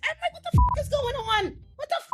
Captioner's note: beep